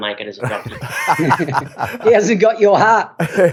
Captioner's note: laugh